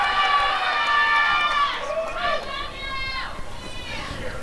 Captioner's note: applause and cheering